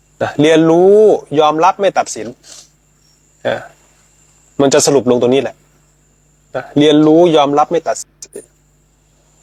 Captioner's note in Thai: เสียงสูดหายใจ